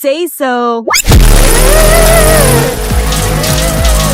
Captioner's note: zapping sound